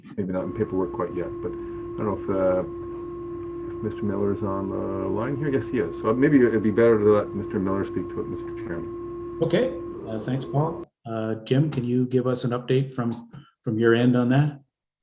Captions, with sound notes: maybe not in paperwork quite yet, but I dunno if, (dial tone) if Mr. Miller is on the line here? Yes, he is! So maybe it'd be better to let Mr. Miller speak to it, Mr. Chairman. - Okay. Thanks, Paul. Jim, can you give us an update from, from your end on that